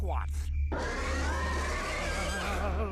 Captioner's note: growling